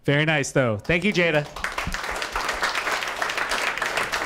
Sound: applause

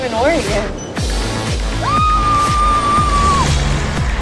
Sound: screams

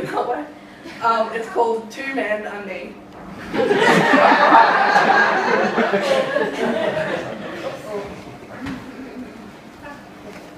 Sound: laughing

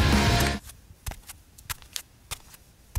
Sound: quiet footsteps

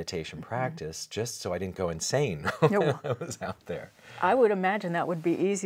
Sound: laughs

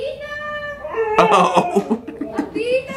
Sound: dog howling

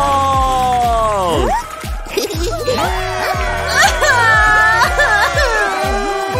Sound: roaring

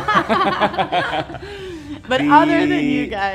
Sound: all laugh

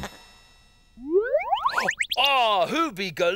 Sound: space sound

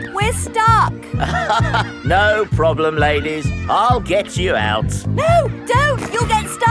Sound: chuckles

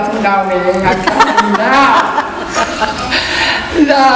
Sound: audience laughs

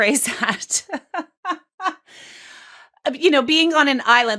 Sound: laughs

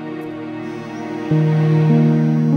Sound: phone buzzing

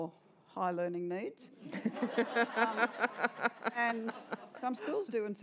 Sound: laughter

